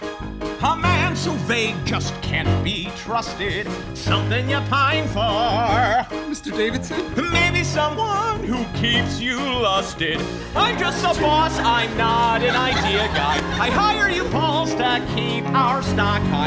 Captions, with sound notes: A man so vague just can't be trusted. Something you pine for! (Speaking) Mr. Davidson? (Singing) Maybe someone who keeps you lusting. I'm just a boss, I'm not an idea guy. I hire you, Paul, to keep our stock high.